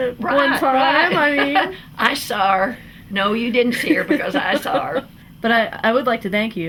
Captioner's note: laughter